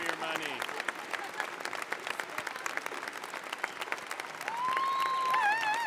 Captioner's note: applause